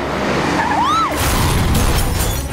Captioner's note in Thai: เสียงกรี๊ด; เสียงรถชน